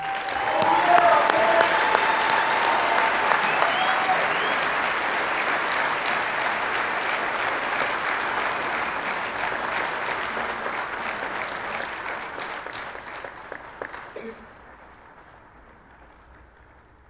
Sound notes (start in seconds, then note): 0.1 audience applauding; 3.2 audience cheering